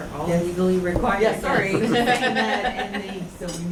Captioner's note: laughs